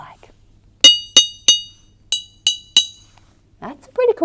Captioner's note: tapping sounds can be heard